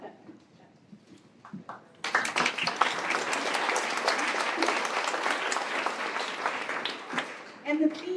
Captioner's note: applause